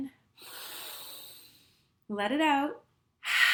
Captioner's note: inhales deeply